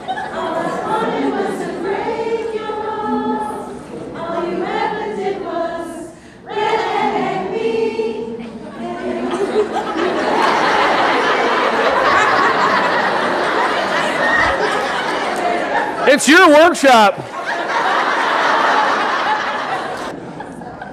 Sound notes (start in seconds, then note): 9.6 audience laughing; 17.9 audience laughing